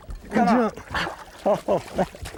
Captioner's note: laughter